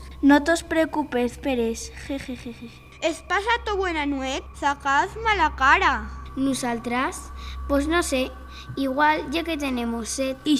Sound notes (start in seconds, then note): none